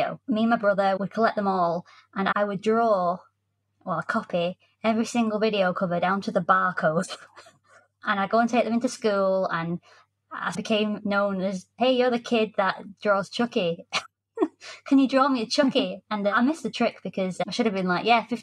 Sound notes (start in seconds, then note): 7.1 snickers; 14.4 giggles